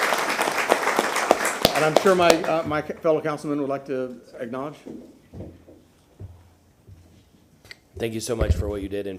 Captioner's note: applause